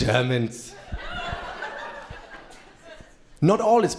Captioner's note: crowd laughing